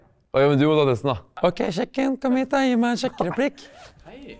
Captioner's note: female voice